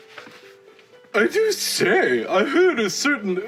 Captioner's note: in exaggerated posh regency English